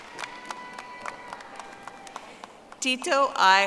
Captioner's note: audience applauding